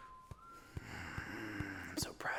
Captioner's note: sighing